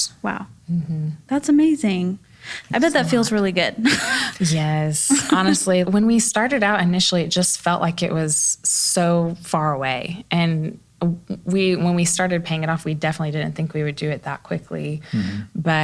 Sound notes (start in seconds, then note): 5.1 chuckles